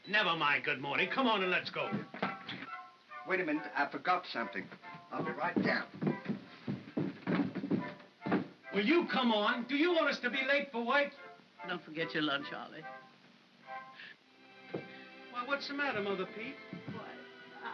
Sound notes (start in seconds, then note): 6.7 footsteps up stairs; 13.5 sentimental music